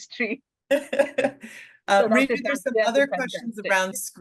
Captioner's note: brief laughter